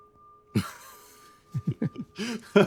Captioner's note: laughing